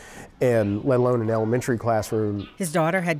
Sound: voiceover

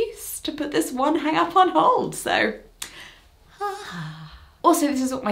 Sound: relieved sigh

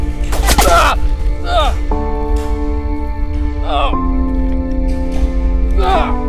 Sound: gunshot booming; Harrison groans; soft music

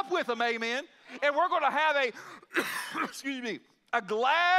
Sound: coughs

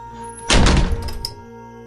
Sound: door Closes

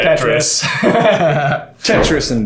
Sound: both laughing

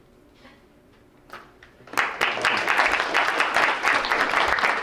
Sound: crowd applauds

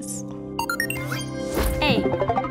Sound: beeping

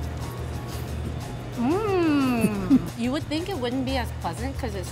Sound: moans

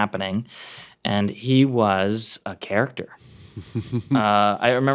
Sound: Jordan chuckling

